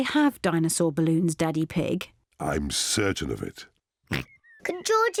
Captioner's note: oinks